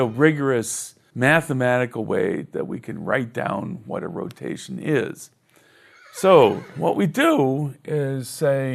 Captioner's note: horse neigh